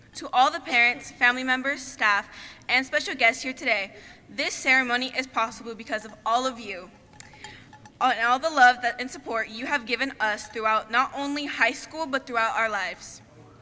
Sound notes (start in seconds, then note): none